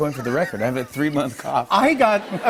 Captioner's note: laughter